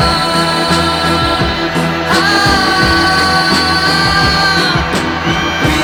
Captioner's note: non-sensical wailing